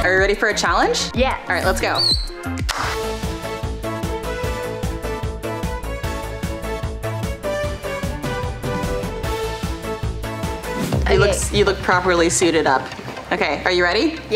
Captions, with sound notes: Are you ready for a challenge? Yes. All right, let's go. (whistling) (upbeat energetic music) You look properly suited up. Okay, are you ready?